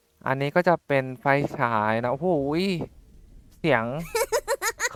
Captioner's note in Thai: เสียงฟ้าผ่า